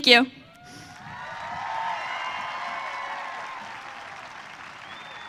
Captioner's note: audience cheering